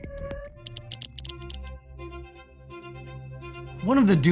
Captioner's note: keyboard clanking